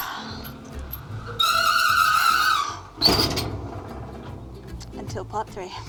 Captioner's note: garage door screeching